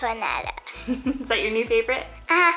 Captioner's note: laughs